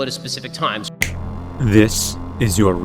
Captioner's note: snap